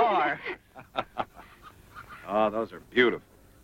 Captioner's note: laughs